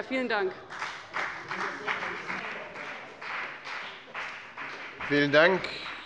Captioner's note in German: Beifall bei dem BÜNDNIS 90/DIE GRÜNEN und der CDU